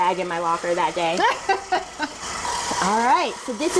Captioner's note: laughing